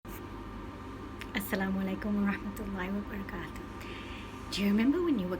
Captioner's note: speaking Arabic